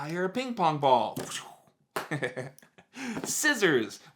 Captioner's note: laughs